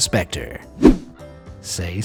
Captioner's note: image whooshing